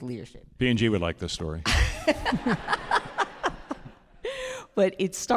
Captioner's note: all laughing